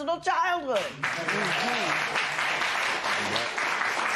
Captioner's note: applause